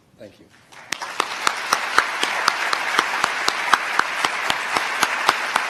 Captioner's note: applause